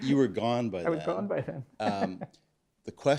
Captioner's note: laughs